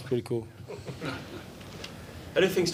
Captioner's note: reporters laugh